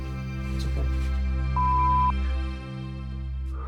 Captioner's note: intense music; beep; intense music